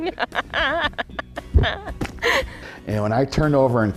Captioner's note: laughing